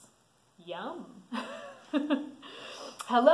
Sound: laughs

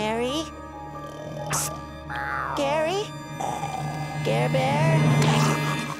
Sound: Gary snoring

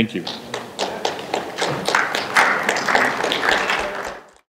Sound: applause

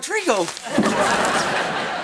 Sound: laughing

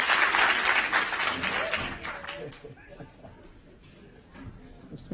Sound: applause

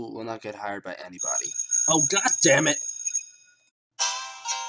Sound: bell rings

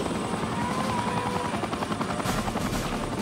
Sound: baby crying

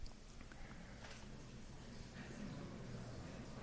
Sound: chatter

